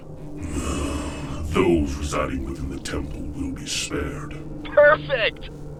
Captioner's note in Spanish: Suspiros